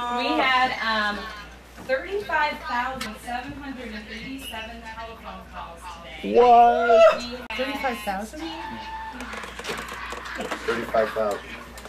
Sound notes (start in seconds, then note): 9.5 applauding